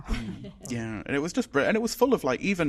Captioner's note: laughs